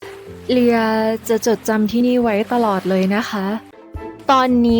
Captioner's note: Leeya, softly